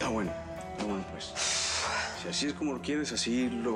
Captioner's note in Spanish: ella resopla